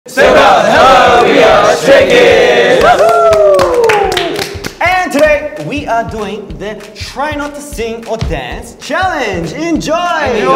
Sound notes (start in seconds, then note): 2.9 group cheers